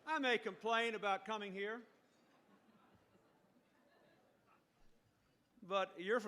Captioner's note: laughter